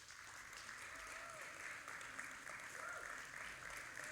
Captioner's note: audience applauding